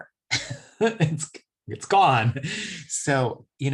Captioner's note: laughs